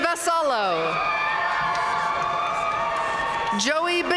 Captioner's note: audience cheering and applauding